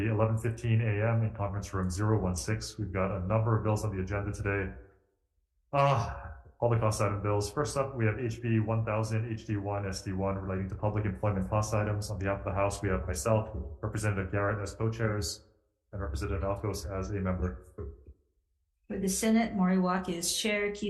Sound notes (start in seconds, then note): 5.7 sighs